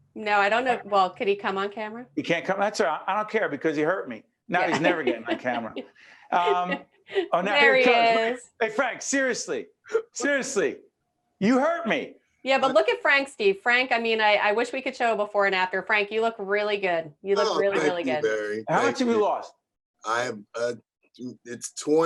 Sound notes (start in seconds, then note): 11.4 laughing